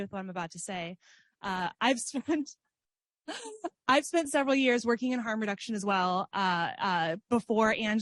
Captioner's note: laughs